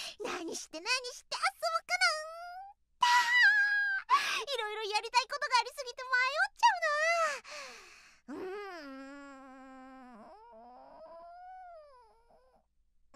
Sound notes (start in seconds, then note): 7.4 deep breath